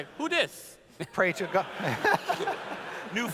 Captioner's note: laughs